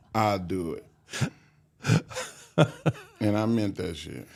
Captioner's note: Mark laughs